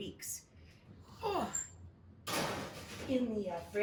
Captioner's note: groans